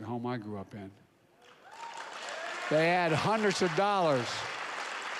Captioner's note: applause